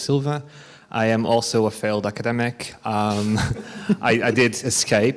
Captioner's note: laughs